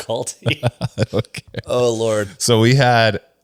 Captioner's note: laughs